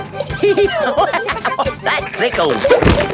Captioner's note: giggling; laughing